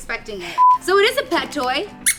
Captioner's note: beep; squeaks